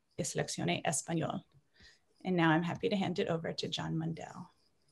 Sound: repeats in Spanish

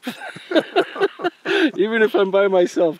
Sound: both laughing

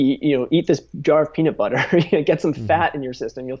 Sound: chuckling

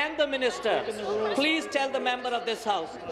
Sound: none

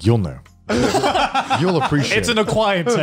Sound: laughs

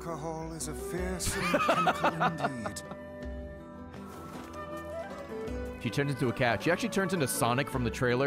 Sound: laughs

